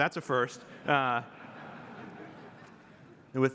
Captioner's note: laughter